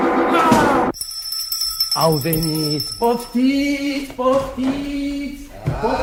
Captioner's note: doorbell rings